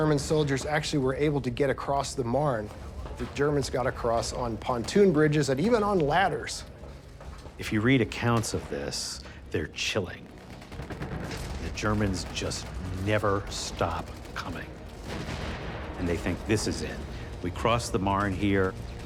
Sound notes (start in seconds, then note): 14.7 explosions booming